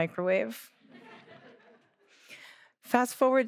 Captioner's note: audience laughing